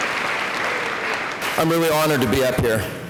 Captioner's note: applause